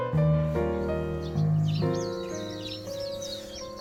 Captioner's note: I could hear the birds singing from nearby